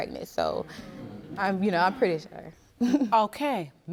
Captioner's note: chuckles